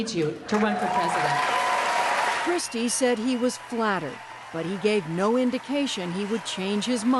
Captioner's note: cheering and applause